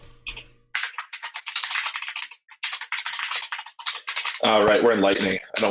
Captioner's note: keyboard keys clanking